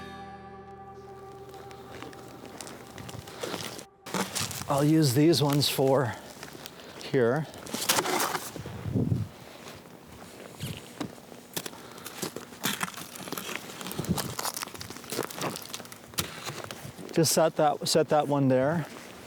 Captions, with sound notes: - I'll use these ones for here. (snow crunching) Just set that one there.